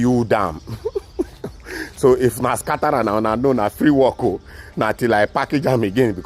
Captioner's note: laughs